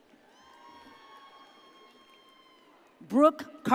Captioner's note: audience cheers